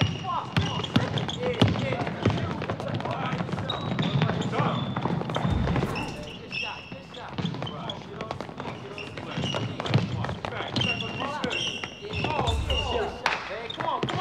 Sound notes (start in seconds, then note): 0.1 dribbling ball; 1.6 team running; 9.1 sneakers squeaking